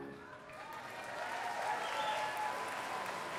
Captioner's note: applause